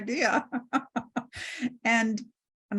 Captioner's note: laughs